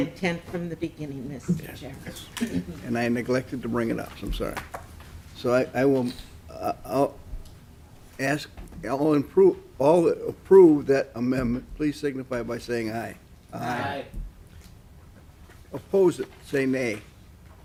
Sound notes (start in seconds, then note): 8.4 chorus of ayes